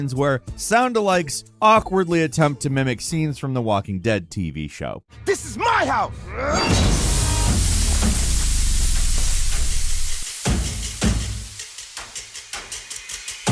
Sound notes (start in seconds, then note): 6.2 person groaning; 6.6 canister hissing; 10.5 dramatic music